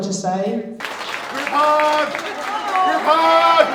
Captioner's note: clapping